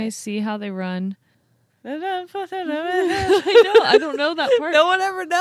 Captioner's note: mumbling